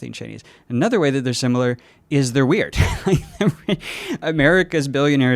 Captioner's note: laughs